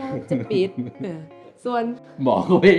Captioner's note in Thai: เสียงหัวเราะ